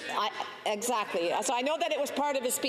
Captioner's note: chatter